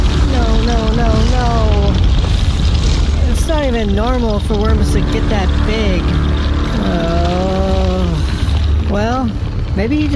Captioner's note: groaning